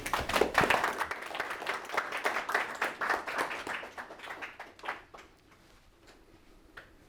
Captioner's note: audience applauds